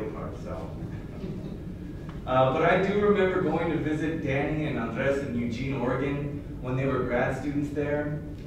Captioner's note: laughter